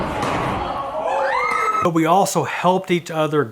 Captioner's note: people exclaim